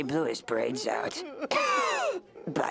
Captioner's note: wheezing cough